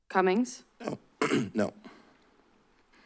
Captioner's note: clears throat